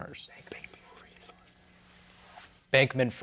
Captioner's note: team whispering